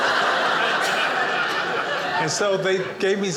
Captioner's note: audience laughing